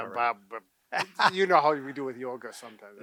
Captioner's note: laughing